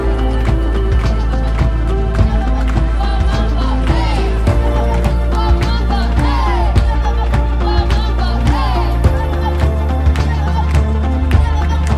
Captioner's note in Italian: Applauso